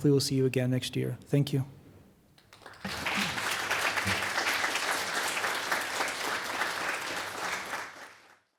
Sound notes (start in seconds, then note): 2.4 applause